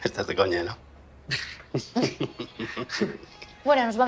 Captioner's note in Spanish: ambos ríen